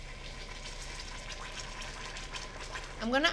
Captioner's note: bubbling